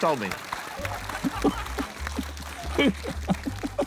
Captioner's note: applause; laughs